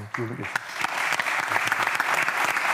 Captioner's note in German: Applaus